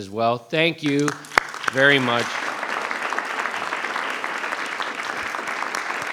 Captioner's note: applause